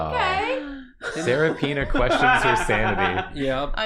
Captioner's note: laughs